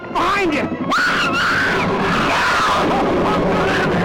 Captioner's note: Liz screams